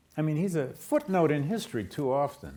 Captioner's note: none